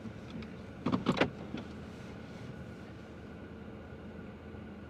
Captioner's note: brake clicks